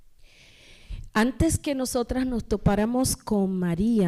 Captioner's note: speaking spanish